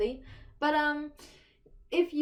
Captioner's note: deep inhale